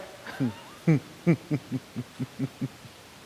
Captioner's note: laughs